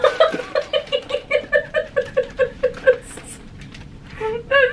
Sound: weeping

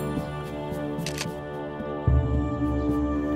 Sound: camera clicks

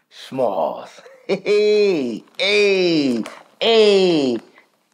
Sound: laughs

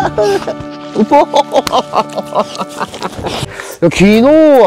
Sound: laughs

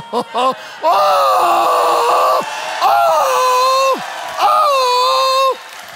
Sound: congregation cheering and applauding

